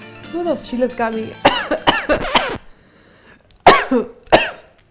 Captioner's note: coughs